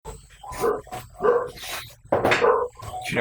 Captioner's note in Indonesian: suara anjing tetangga